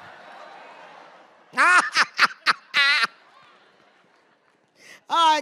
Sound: audience laughs; Jenifer laughs

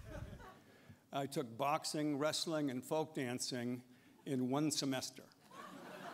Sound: laughter

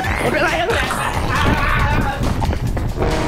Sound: screams

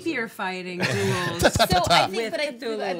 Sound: laughing

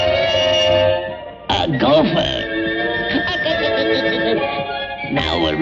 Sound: laughs

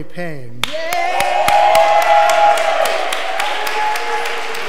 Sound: audience applause

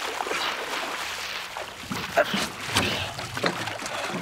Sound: water splashing

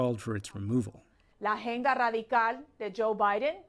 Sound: speaking spanish

